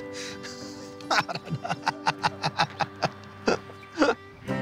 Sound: he laughs

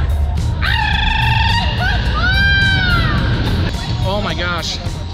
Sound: rolls tongue and yelps

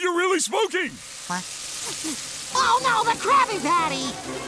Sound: sniffs

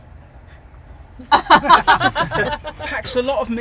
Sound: laughter

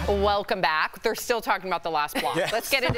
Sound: laughter

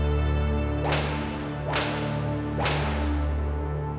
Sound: sound of prisoners being struck

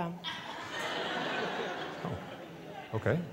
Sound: laughters

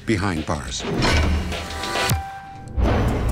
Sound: door slams

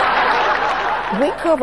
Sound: audience laughing

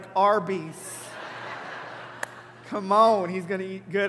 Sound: congregation laughing

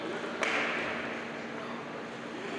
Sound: bang!

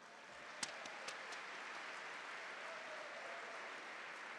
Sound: audience clap and cheer

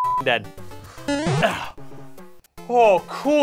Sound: boing!

